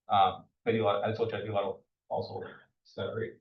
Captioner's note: speaks faintly